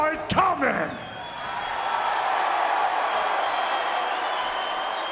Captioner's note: crowd cheering